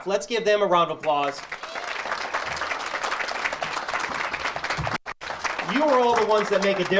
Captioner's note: audience cheers and applauds